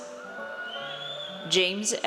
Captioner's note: audience cheers